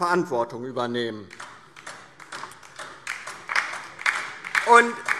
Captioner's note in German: Beifall